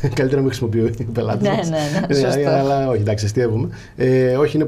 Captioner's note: both laughing